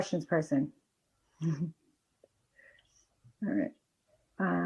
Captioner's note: laughs